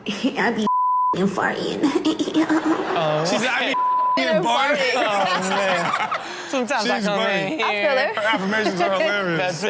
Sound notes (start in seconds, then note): 2.0 cameraperson giggles; 4.8 all laugh